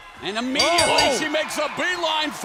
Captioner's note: bell ringing